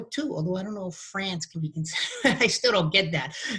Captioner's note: laughs